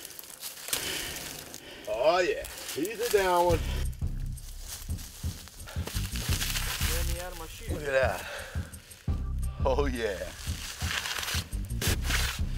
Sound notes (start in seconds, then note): none